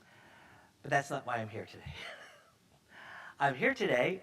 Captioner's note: chuckles